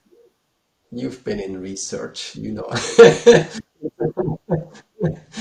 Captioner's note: laughing